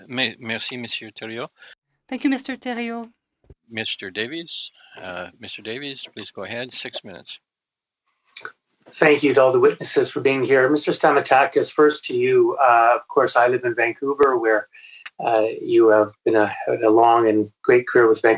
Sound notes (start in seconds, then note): 13.1 speaking French